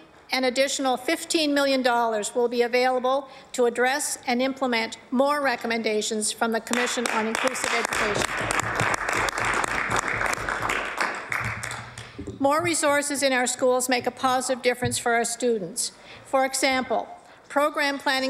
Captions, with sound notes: BE A PRIORITY FOR OUR GOVERNMENT. IN 2019-20 AN ADDITIONAL $15 MILLION WILL BE AVAILABLE TO ADDRESS AND IMPLEMENT MORE RECOMMENDATIONS FROM THE COMMISSION ON INCLUSIVE EDUCATION. [ APPLAUSE ] MORE RESOURCES IN OUR SCHOOLS MAKE A POSITIVE DIFFERENCE FOR